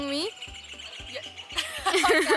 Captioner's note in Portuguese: periquito cantando; ambas rindo